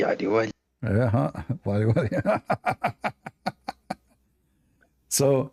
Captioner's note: Ketawa